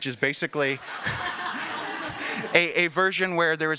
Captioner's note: laughing